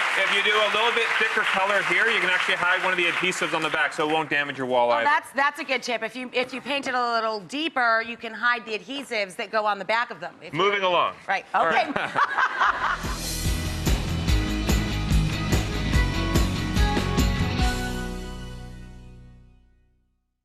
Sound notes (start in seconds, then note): 11.6 laughs; 12.5 upbeat music